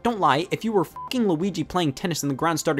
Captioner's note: beeps